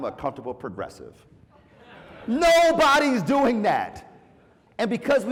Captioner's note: laugh